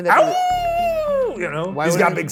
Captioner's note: howls